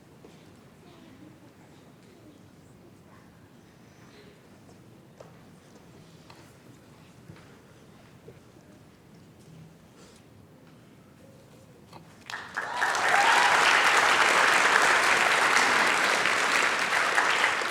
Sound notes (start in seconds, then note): 12.2 applause